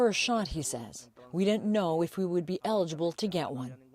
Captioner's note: speaking Foreign Language